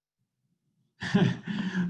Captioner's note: laughs